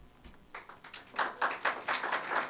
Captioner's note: applause